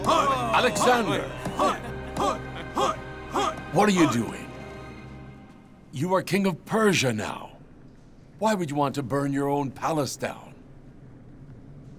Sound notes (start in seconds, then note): 1.5 cheering